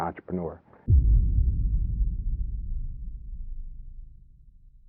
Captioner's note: ominous bang